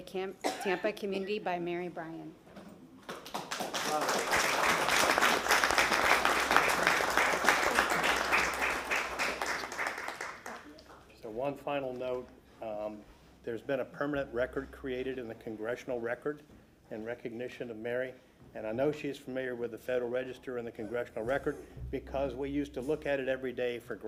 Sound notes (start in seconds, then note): 6.7 applause